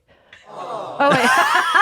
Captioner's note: crowd awws